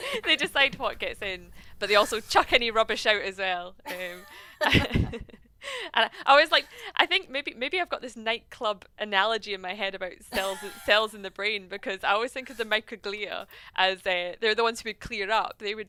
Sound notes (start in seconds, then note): 0.0 laughing; 3.9 laughing